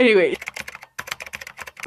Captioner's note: keyboard Clacking